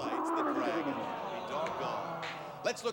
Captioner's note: dragon roars